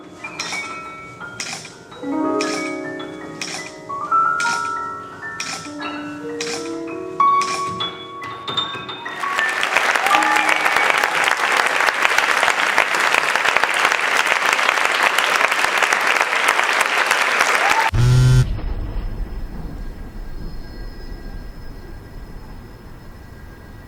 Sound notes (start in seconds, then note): 0.0 ambient music and sounds; 9.3 applause; 17.9 cell phone buzz